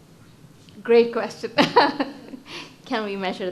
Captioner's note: laughs